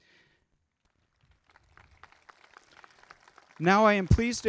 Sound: crowd clapping

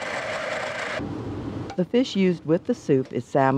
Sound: voiceover

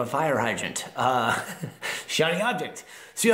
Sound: laughs

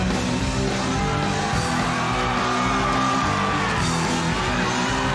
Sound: audience cheering

